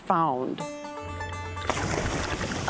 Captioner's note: splashing